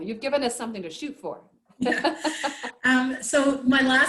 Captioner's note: chuckles